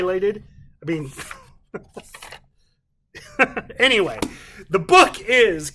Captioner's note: chuckles